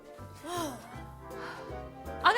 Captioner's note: laughs; sighs